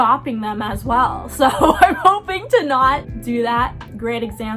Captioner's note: laughing